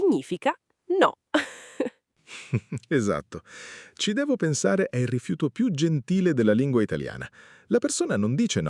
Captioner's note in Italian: risate